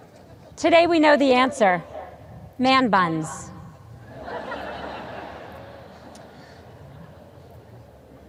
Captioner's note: audience laughs